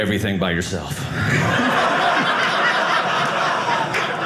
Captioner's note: audience laughing